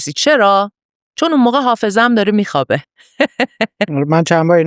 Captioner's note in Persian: خنده